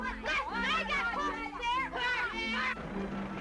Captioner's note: chattering